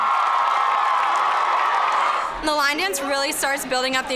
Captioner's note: cheering